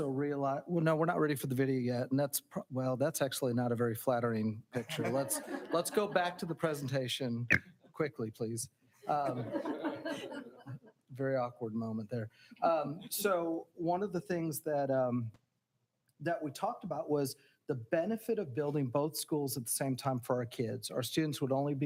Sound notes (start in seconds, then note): 9.2 audience laughing